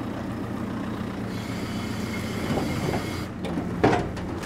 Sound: engine roars

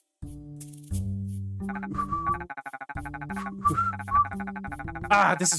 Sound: whistles in screw you

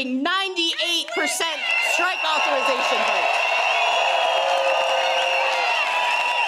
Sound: crowd cheers

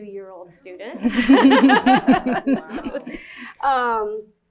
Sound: laughter

